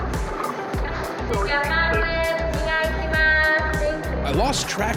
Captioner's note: woman yelling in Japanese